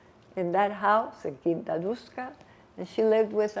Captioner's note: non-english